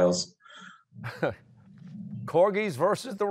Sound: chuckles

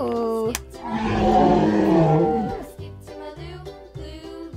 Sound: roar

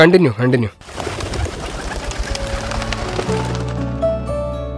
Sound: birds flocking

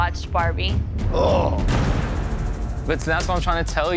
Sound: groans

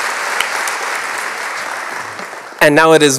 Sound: applause

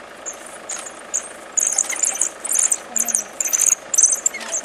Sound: dog chirps increase in frequency

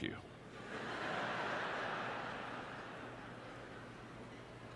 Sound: audience laughter

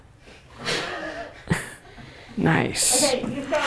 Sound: producers laughing

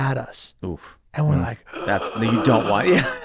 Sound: gasps

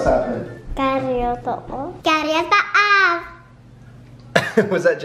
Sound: speaking gibberish

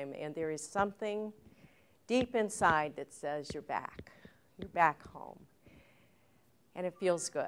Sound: none

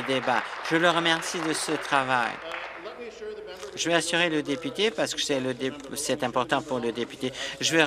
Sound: applause

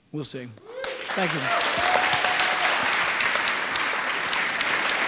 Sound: audience cheering

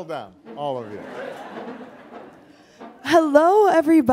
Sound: audience laughing

